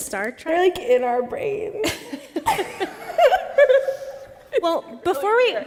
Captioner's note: laughter